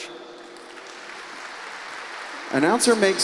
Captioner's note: applause